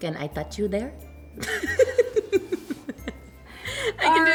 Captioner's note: both laugh